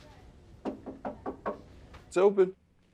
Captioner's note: knocking on door